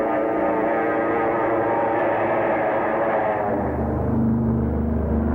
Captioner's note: airplane engines roaring